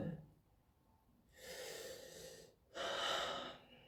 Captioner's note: breathes in and out